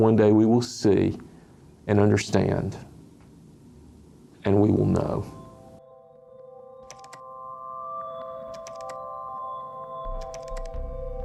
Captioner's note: keyboard clicking